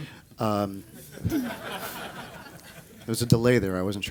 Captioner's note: laughter